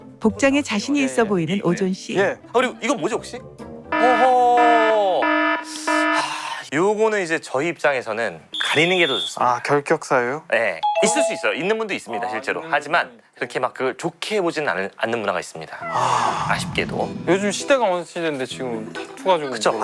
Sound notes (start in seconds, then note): 15.8 deep sigh